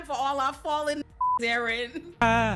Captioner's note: beep